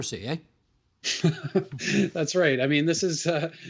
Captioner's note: laughing